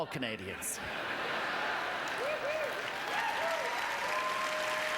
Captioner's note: laughing; applause